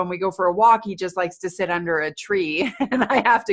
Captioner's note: laughing